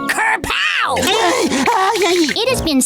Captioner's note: shuddering